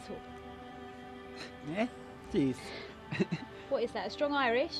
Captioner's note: laughs